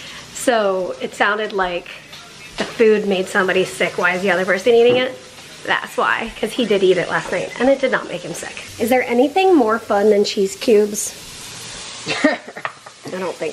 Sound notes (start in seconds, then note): 12.0 laughs